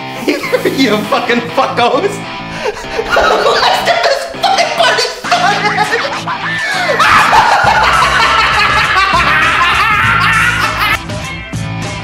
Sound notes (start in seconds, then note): 2.9 maniacal laugh; 7.1 maniacal laugh